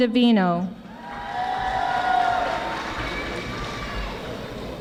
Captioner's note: audience applauding